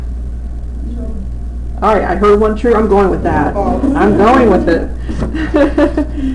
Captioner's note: laughter